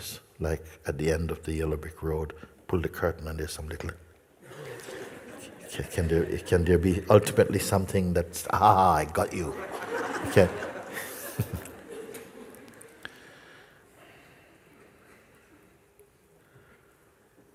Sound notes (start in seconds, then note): 9.3 Lachen; 13.7 lange Stille